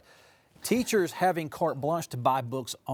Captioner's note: laughing